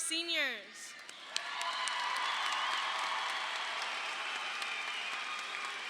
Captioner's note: audience applauding